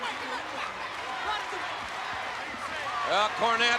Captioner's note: spectators cheering